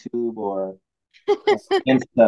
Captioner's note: laughs